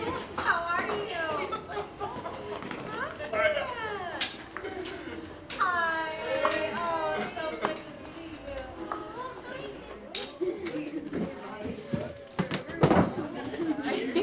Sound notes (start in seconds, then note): 1.7 laughing